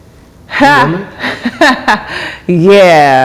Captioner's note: laughs